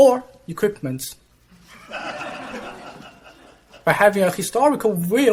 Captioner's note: laughter